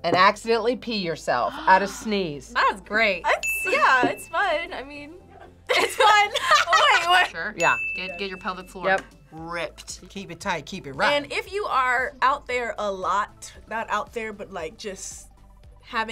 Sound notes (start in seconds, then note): 5.2 laughs